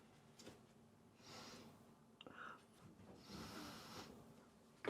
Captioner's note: Betsy sniffing